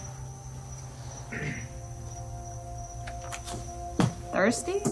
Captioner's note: clears throat